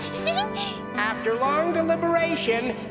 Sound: laughs

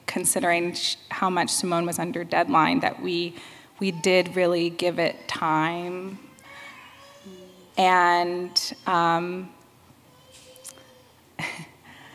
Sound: baby crying

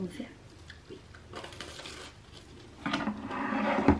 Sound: sound of crispy baguette; something being moved on the desk

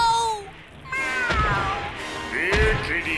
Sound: meowing

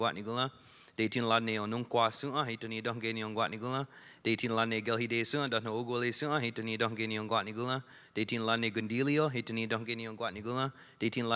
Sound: speaking Indigenous Language

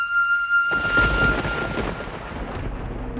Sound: thunder crackling

